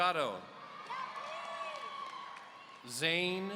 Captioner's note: audience cheering